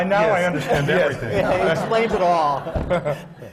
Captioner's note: laughter